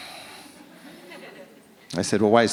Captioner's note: audience laughs